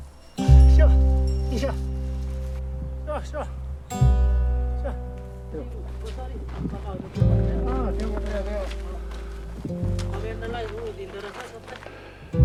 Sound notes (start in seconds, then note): 1.1 slow guitar music; 1.1 speaking in Sherpa language